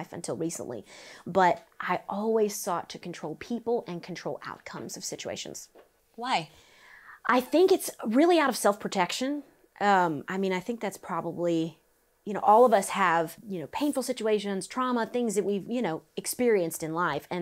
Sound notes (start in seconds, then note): none